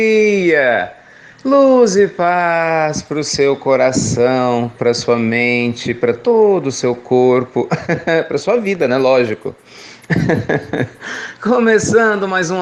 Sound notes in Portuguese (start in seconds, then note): 10.0 Risos